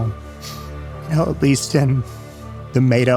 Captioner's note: voice wavering